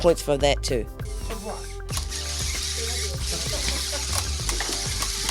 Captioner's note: robot whirring